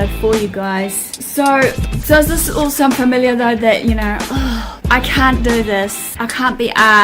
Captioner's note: sighs